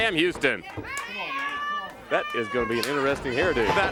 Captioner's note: crowd chatter